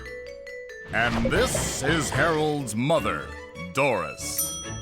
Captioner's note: banging sounds